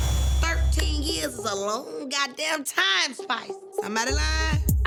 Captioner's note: hands clap